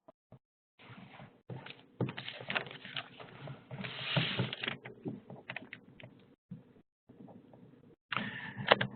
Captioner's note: no speaking